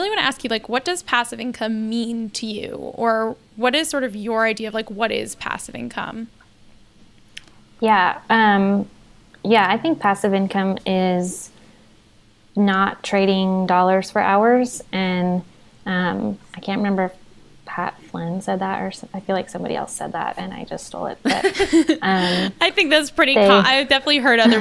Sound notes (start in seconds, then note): 21.2 laughs